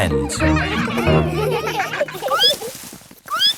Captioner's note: all laughing; squeaking